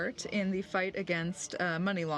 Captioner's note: speaking French